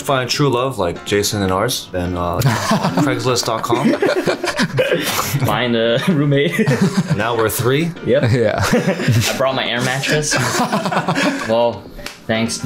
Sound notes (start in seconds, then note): 4.9 boys laughing; 11.7 boys laughing